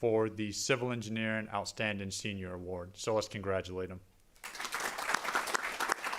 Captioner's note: applause